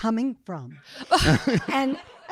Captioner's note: audience laughing